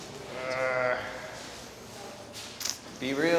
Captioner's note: guy grunts